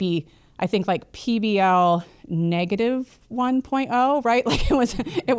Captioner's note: laughs